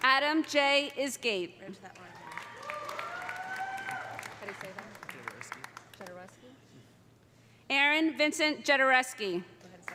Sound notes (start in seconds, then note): 2.0 audience applauding; 2.1 audience cheering